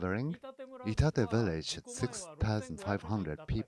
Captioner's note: speaking Foreign Language